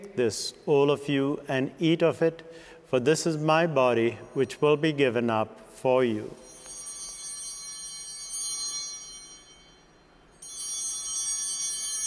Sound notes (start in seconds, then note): 6.3 bell ringing